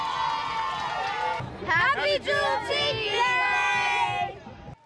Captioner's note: crowd cheering